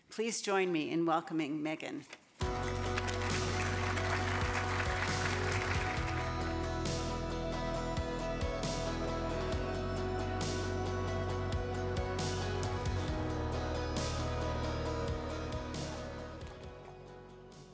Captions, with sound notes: Please join me in welcoming Megan. (upbeat music) (audience applause)